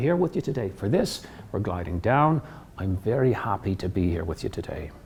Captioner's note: in Irish accent